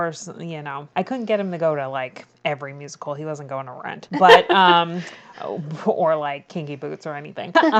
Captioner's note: laughs